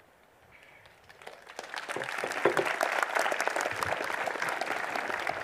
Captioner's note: applause